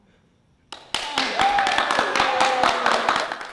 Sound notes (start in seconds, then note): 0.7 audience clapping and cheering